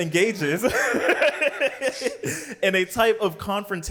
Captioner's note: laughs